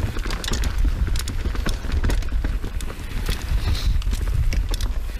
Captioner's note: bicycle wheels turning; bicycles creaking